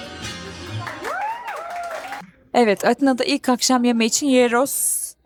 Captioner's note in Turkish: coşkulu tezahürat